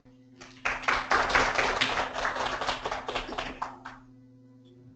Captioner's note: applause